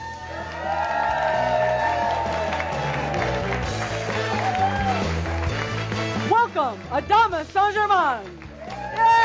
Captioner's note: more audience cheers and applause